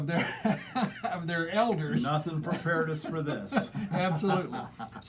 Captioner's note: laughs; laughter